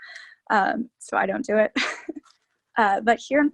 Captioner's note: laughing